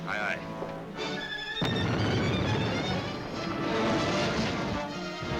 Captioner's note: cannons firing